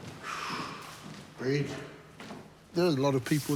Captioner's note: exhales